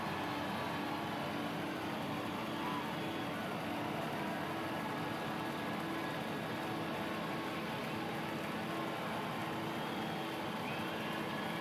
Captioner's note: cheers and applause